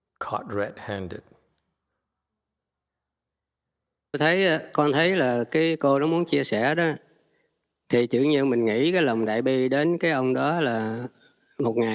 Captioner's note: speaking Vietnamese